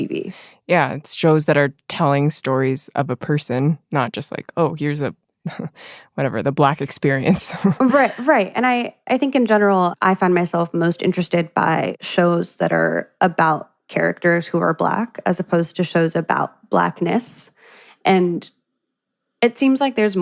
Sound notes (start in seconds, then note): 7.5 chuckles; 7.7 laughs